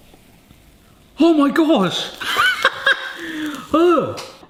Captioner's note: laughing